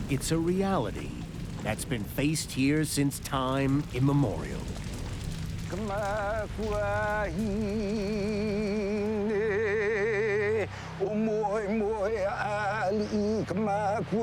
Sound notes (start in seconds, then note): 5.6 chanting in Hawaiian; 9.1 chanting